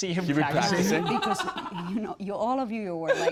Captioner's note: laughing